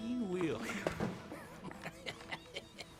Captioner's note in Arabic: يضحك